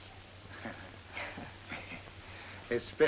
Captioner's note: chuckles